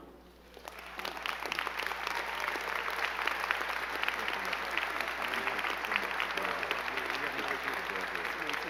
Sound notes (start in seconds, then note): 0.4 crowd clapping; 5.2 both chattering